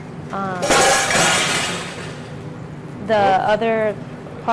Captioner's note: clattering